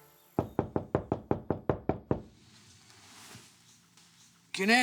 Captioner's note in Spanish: Toques en la puerta